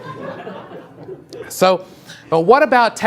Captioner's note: audience laughs